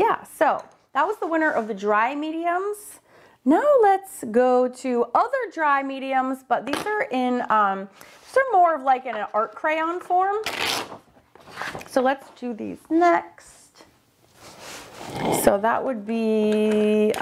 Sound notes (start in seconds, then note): 10.4 paper ripping